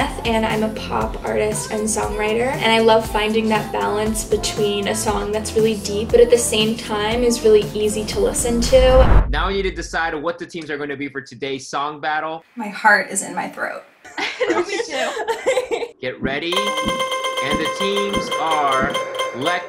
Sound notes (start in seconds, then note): 14.1 laughs; 16.5 bells ringing